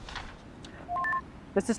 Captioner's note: radio beeps